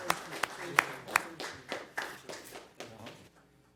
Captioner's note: applause